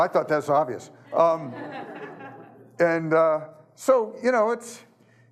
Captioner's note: audience laughing